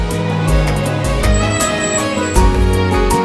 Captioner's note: Car halting